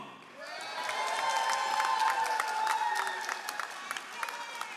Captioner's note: all applauding